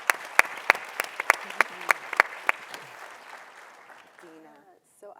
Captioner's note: audience applauding